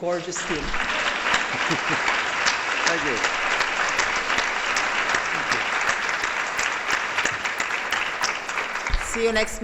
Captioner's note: applause